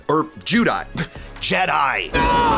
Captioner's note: scoffs